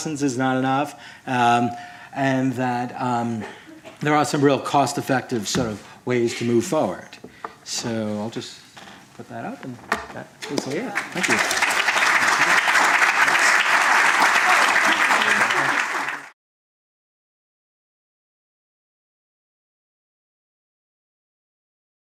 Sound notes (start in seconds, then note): 10.9 applause